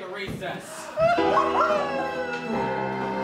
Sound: Montgomery crying; transition music

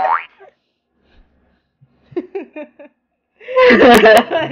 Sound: giggles

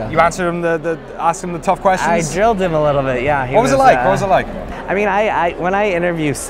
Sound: none

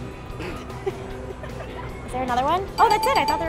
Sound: funky rock music; laughing

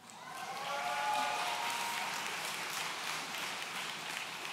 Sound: audience cheering

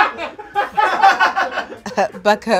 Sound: people offstage laugh

